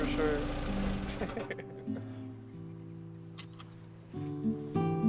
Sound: Thomas chuckling

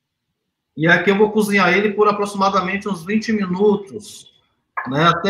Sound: speaks portuguese

